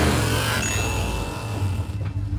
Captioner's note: ding